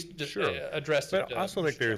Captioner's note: speaking faintly